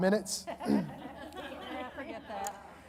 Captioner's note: audience laughing